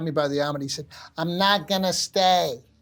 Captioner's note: with American accent